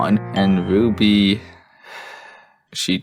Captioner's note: sighs